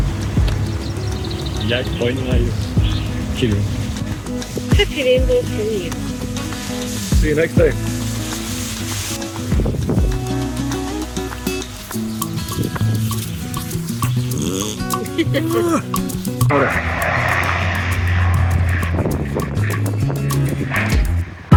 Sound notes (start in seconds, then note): 14.0 Bear passes wind; 15.0 laughter; 16.6 sound of Sea plane